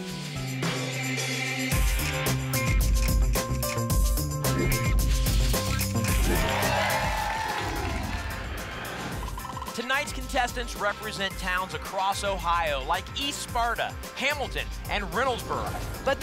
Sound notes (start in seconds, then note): 6.2 applause and cheering; 7.4 whoosh